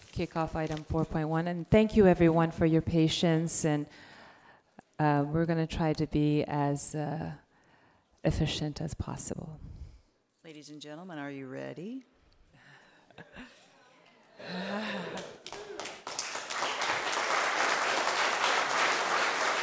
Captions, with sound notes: kick off Item 4.1? And thank you, everyone, for your patience. We're gonna try to be as efficient as possible. - Ladies and gentlemen, are you ready? (laughs) (audience cheering) (audience applause)